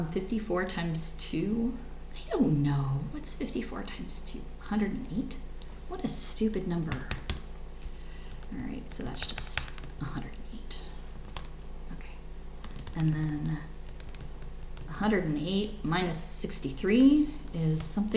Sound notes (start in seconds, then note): 7.2 keyboard clicks